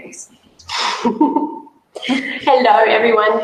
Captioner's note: giggles